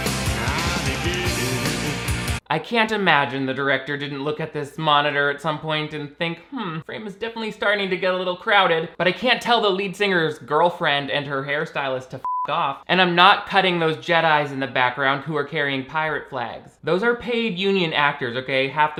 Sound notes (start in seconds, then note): 0.0 rock music; 12.2 beeping